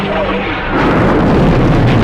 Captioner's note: explosion